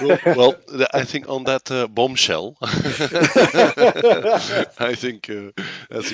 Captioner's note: laughs